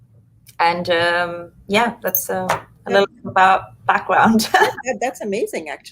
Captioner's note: laughs